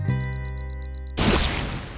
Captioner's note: explosion